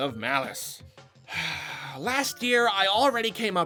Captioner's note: sigh…